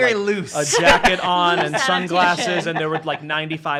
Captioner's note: laughing